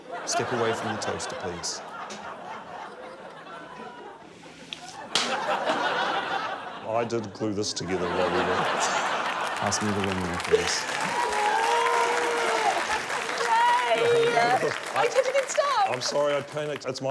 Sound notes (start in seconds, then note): 4.8 laughter; 12.1 applause